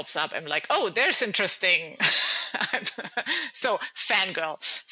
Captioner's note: laughing